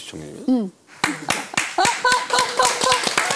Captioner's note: clap! Clap! Clap!